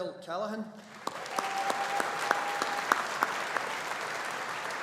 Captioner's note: audience applauding